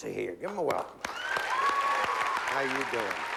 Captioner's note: applause